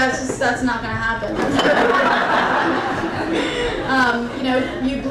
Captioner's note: crowd laughing intensifies